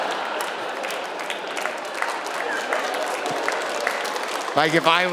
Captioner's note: audience laughing; audience applauding